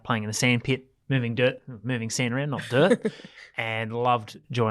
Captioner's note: laughs